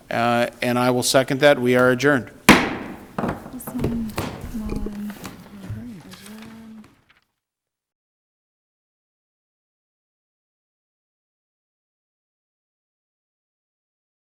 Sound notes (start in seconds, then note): 2.4 gavel bangs; 3.0 people chattering softly